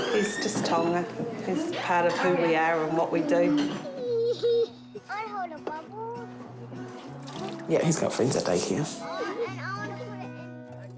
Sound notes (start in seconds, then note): 3.8 giggles